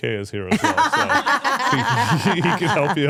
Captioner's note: both laughing